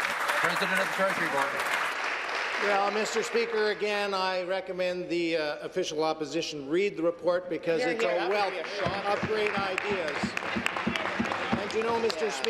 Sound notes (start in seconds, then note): 2.9 applause